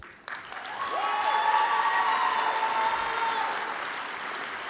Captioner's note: applause